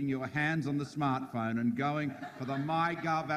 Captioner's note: audience laughs